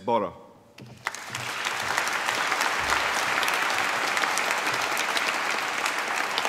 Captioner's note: applause